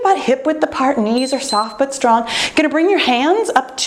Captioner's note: timer beeps